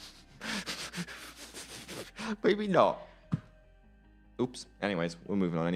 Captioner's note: laughs